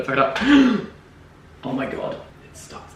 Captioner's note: gasps